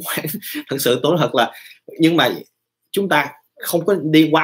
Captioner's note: chuckle